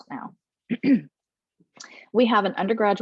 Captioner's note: clears throat